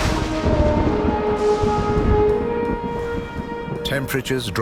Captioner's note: thunder rumbling; light dramatic music